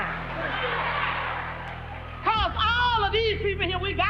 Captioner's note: audience laughs